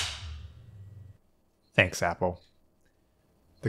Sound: loud snap

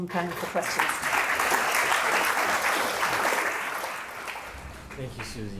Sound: applause

